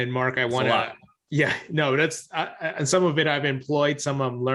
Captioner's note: chuckles